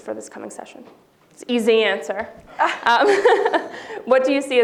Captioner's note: laughs